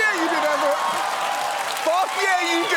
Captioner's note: audience cheering, applauding